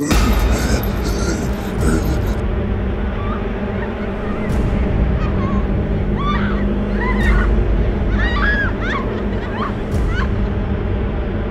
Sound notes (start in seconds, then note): 0.2 suspenseful music; 5.0 Morgan and Heather screaming